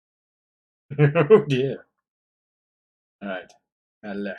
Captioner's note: laughs nervously